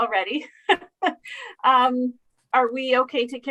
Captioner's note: laughing